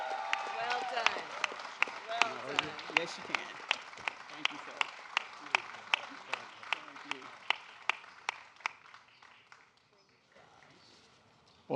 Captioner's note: applause